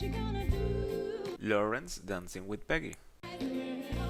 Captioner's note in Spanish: hablando